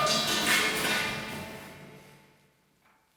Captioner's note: loud metallic clang echoing